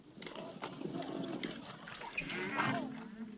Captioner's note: horses trotting